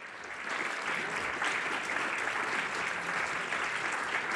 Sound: applause

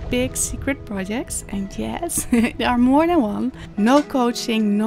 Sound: chuckles

